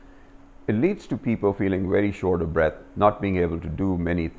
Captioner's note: shortness of Breath